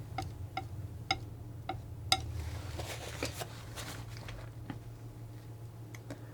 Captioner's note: tapping